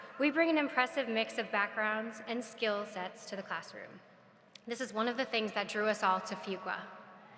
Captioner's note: none